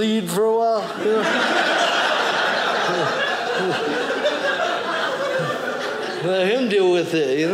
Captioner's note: audience laughing